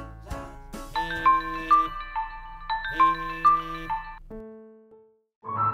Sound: phone alarm ringing

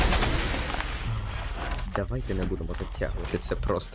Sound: sighs

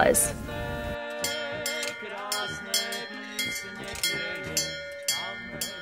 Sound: bell ringing

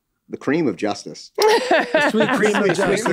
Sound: Megan laughs

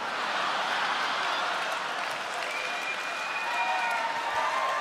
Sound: cheering, applause

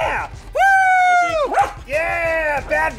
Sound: barks

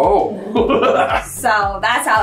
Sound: laughs

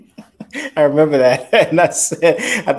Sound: chuckling

